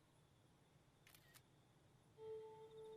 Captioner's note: clicking Photos